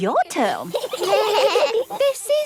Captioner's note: children giggling